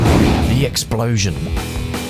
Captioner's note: the explosion